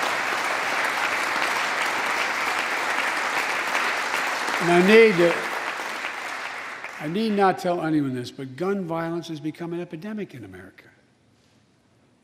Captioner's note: applause